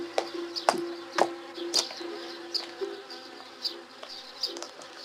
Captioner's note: buzz